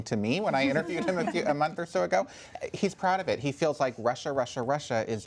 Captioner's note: laughter